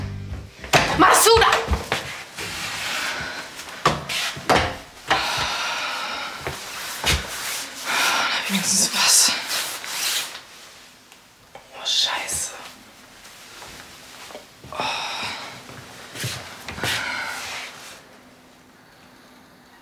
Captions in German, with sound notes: Massuda! *Fabienne seufzt erleichtert.* Wenigstens was. Oh, scheiße.